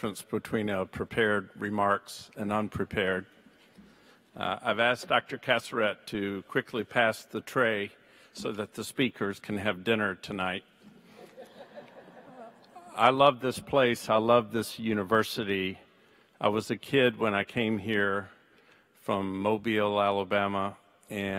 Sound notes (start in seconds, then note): 11.1 audience laughs